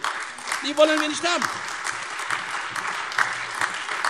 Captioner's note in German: Beifall Freie Demokraten und AfD